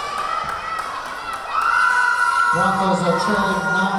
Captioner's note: cheering; clapping; cheering